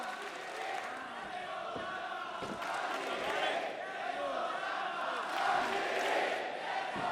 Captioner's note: audience clapping; audience chanting